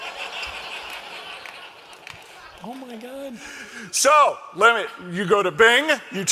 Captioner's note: laughter